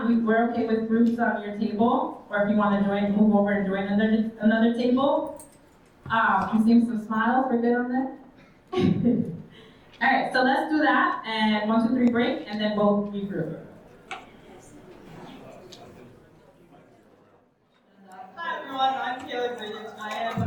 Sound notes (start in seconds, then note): 8.7 chuckles; 15.3 attendees chattering